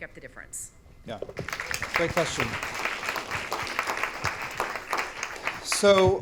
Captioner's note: audience applauding